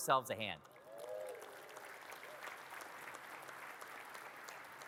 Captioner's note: audience claps